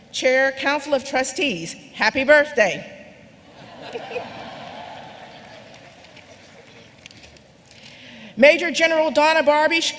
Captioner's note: laughter